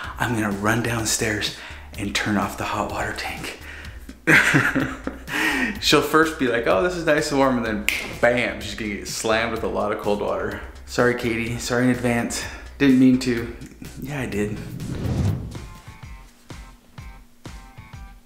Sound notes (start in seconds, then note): 4.3 laughs; 8.0 snap